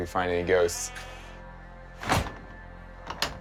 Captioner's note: lock clicking